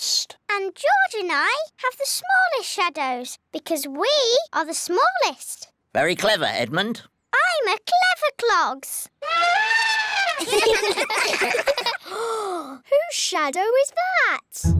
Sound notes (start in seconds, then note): 9.1 trumpets; 10.3 all giggle; 12.0 gasps